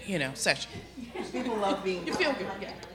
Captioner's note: laughter